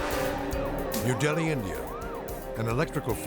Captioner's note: anxious music; siren blaring